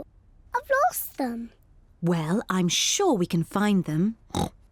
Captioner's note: oinks